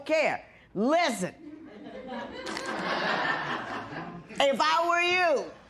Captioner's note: laughter